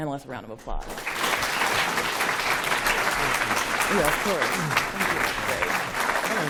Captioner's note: applause